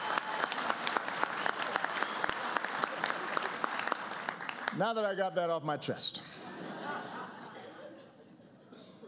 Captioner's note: applause